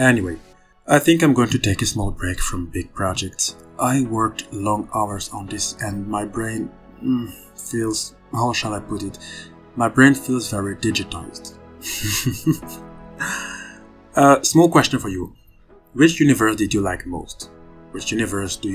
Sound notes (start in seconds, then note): 11.9 laughs